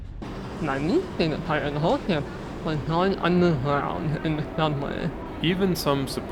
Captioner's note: noise from trains and people